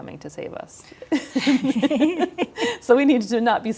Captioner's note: chuckling